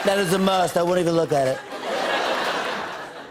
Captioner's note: laughter